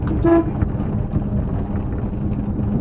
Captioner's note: horn honk